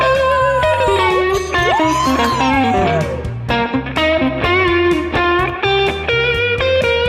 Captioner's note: cheers; lute shreds upbeat tune